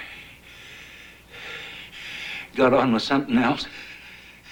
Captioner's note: panting